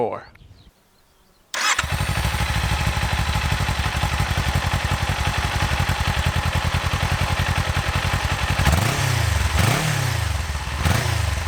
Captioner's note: engine noise